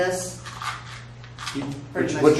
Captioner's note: shaking with a bag of pills